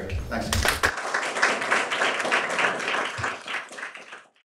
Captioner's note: audience clapping